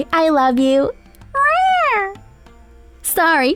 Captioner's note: Joy meows